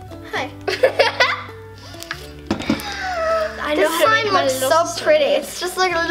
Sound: laughs

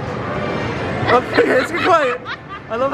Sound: laughs

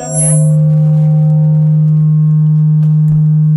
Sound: audio Feedback

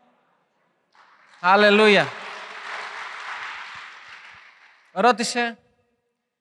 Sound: applause

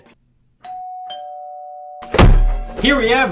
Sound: doorbell rings; slams

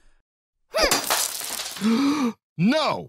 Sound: Knuckles gasps

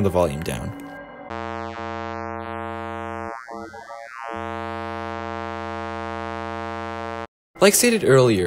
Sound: buzzing Noise

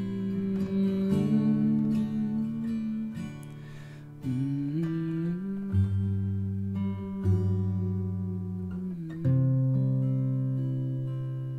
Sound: humming

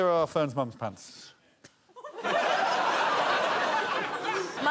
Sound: crowd laughs

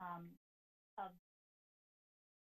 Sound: audio cuts

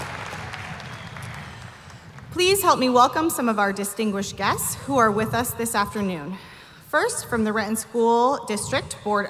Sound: applause

